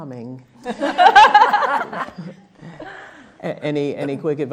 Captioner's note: laughing